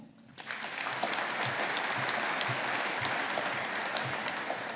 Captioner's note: audience applauding